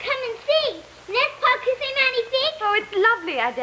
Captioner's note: speaking french